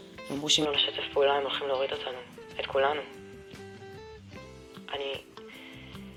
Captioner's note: speaking in Hebrew